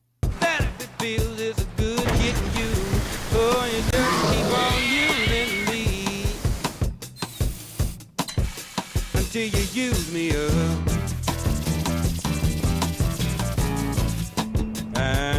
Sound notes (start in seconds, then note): 0.2 triumphant music; 3.6 roars; 3.8 squeals; 6.2 triumphant music